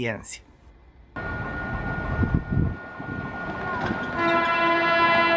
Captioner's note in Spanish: sonido ambiente y llegada de Metrotranvía